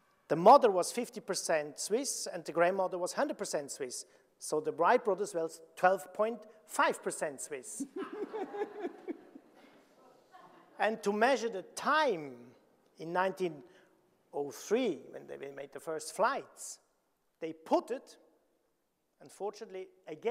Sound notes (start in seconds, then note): 7.8 chuckles; 7.8 audience laughing